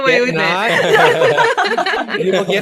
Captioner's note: laughter